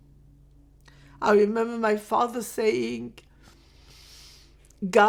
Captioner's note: pauses 8 seconds; sniffling